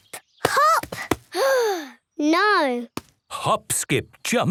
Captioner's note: sigh